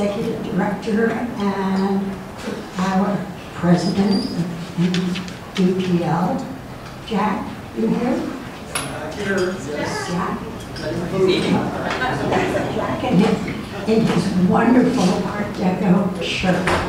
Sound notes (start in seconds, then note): 11.8 crowd mumbling